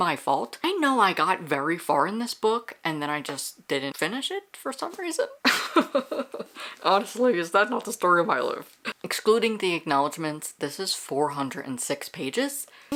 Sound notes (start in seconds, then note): 5.5 laughs